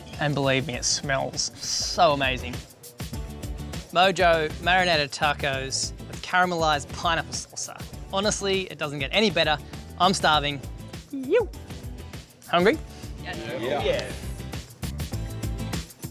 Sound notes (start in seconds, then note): 11.5 yelps; 15.9 upbeat music